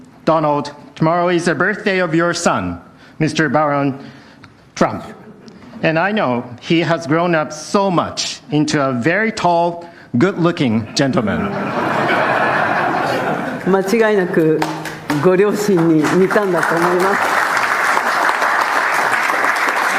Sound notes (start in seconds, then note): 10.8 laughter; 17.7 applause